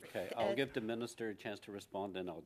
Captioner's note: speaking French